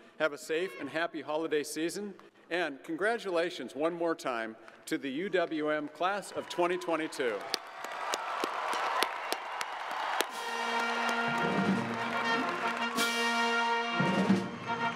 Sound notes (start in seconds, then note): 8.0 crowd applauding; 10.2 triumph music